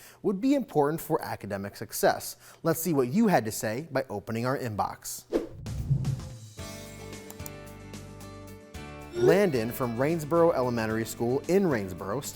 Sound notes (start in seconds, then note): 5.3 screen swooshing; 5.5 keys clicking